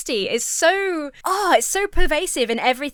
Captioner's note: groans in frustrations